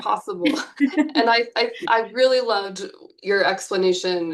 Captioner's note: chuckles